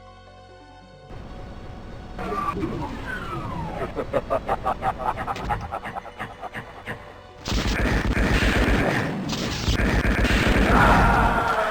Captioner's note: evil laugh